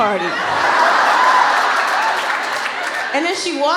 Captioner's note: laughter